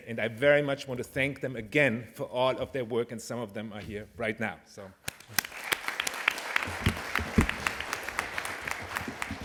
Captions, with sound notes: And I very much want to thank them again for all of their work, and some of them are here right now, so-- [APPLAUSE]